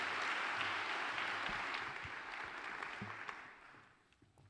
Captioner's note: applause